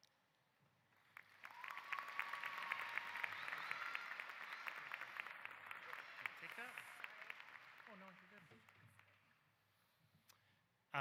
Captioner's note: applause